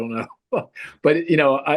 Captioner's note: laughs happily